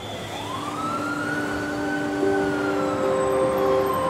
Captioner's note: siren wailing